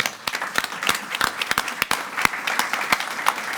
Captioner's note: all applauding